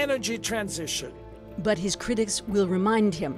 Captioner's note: speaking alternate language